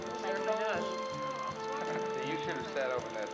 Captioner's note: chattering